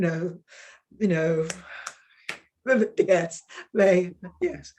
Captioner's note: woman snapping